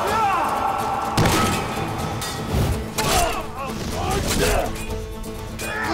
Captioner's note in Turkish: Dövüşme sesleri